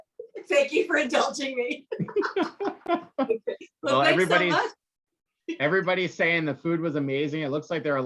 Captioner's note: laughing